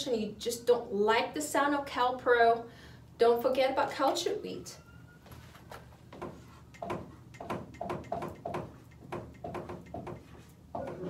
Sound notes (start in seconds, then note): 5.2 marker board rattling